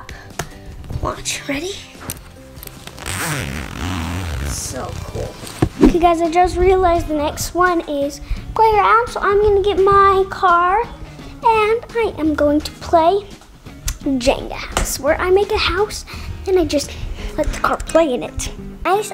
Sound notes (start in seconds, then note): 2.6 zipping